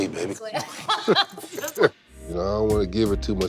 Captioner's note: both laugh